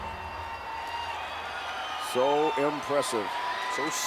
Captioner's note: crowd cheers